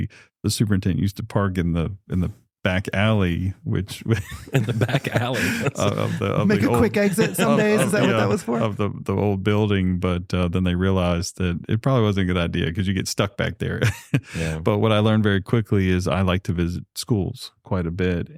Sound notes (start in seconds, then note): 5.9 laughter; 13.8 chuckles